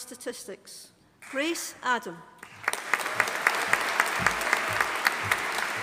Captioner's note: audience applauding